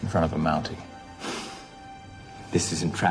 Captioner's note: scoffs